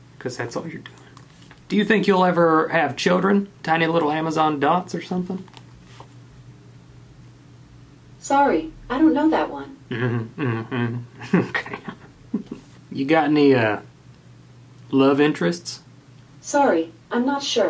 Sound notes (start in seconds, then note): 12.3 scoffing and snickering